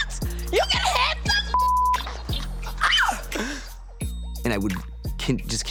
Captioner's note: screams